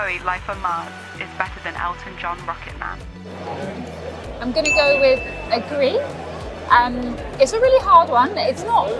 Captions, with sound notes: David Bowie-Life on Mars is better than Elton John-Rocket Man? [bell chime] I'm going to go with agree. It's a really hard one.